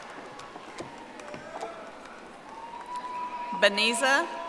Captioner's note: audience applauding